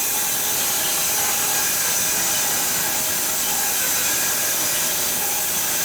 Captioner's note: sawing machine whirring continues